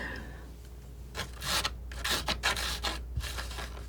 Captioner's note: scratching